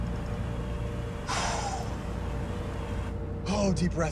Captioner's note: exhales sharply